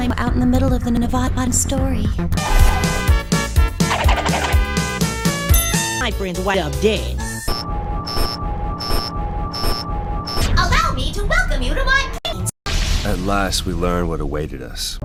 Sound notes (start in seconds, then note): 7.4 some beeps that sounds like squeaks